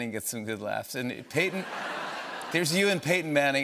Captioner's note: laughter